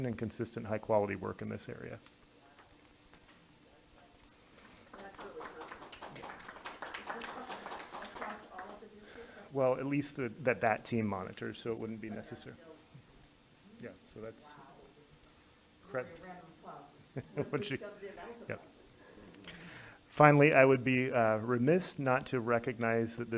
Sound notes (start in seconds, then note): 4.6 board members clap